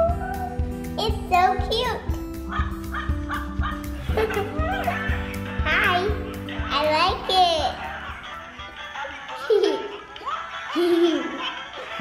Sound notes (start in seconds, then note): 2.5 toy woofing